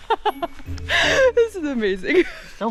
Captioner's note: laughs